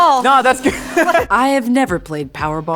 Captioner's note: laughs